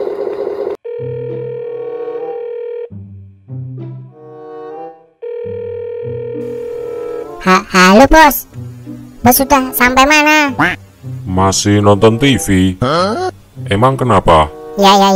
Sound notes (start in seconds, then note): 5.2 telephone sound